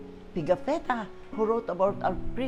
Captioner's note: none